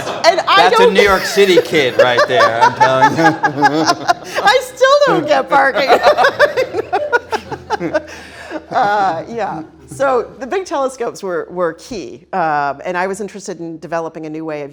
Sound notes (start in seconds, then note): 3.6 both laughing; 6.1 all laughing